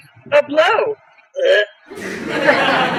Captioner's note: gags